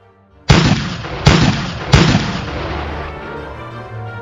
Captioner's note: bang